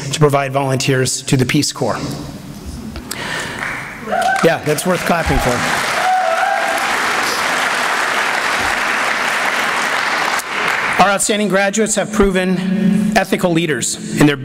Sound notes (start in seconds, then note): 4.0 applause